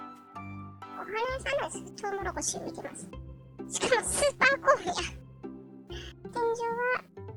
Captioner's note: laughs